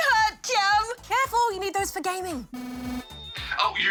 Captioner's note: microphone feedback